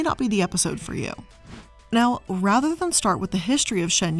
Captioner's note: air whooshing